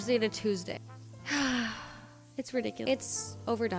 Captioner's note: sighing